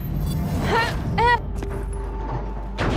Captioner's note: groans